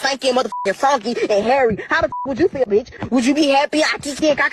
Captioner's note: beep